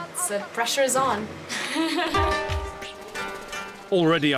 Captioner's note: laughs